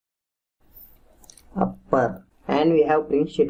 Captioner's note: typing